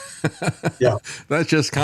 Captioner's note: laughing